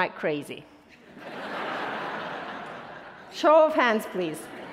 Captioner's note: attendees laughing